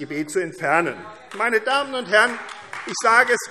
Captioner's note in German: Vereinzelter Beifall AfD